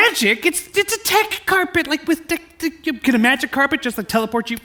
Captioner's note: stammers